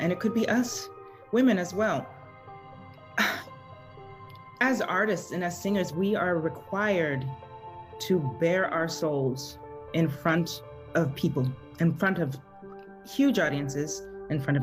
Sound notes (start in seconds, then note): 3.1 sighs